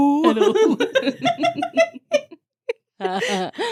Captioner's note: laughing